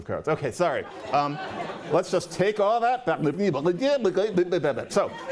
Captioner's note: speaking gibberish